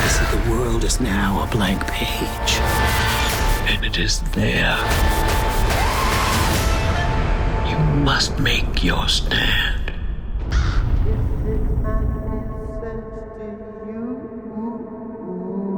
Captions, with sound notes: - The world is now a blank page and it is there. (woman screaming) - You must make your stand. (eerie whisper)